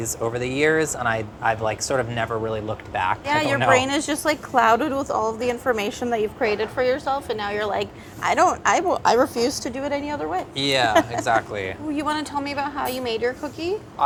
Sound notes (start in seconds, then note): 10.7 laughing